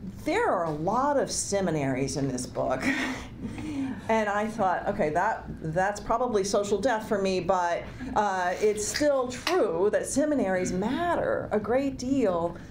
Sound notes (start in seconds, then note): 3.4 giggles